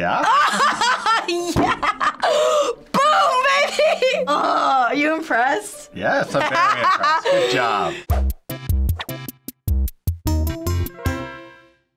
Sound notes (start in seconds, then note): 0.4 laughing; 6.1 laughing; 7.8 quirky interlude